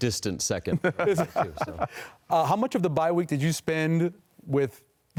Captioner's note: laughter